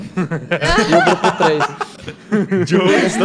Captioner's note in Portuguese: risadas